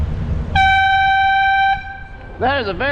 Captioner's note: air horn